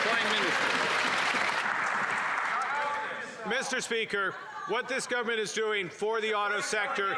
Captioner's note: applause